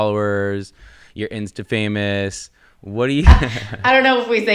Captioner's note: laughing